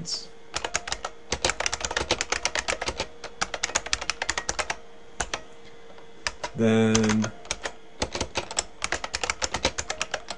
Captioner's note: typing